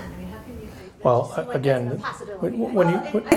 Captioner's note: murmurs